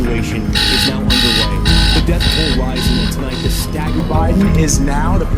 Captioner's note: alarm rings